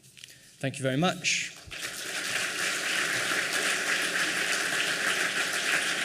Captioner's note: applause